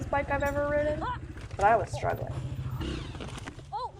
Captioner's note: woman groaning and falling; bike thudding against tree trunk